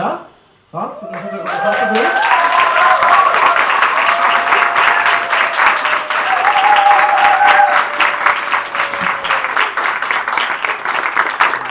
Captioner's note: applause